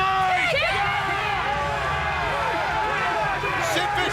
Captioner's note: crowd yelling